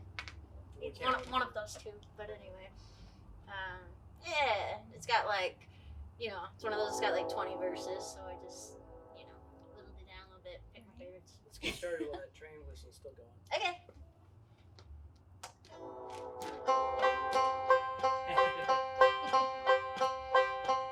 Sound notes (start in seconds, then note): 6.6 train whistles; 15.7 train whistles